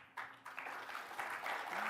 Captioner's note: applause